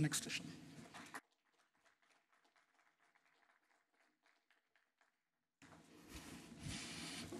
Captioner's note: applause